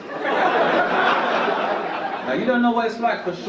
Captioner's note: audience laugh